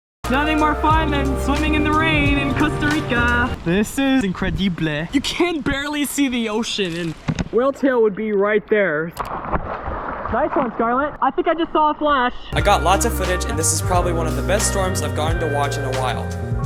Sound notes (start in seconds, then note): 9.1 splash; 12.4 voiceover